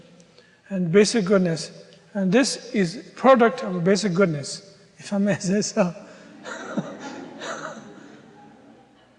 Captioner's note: audience laughter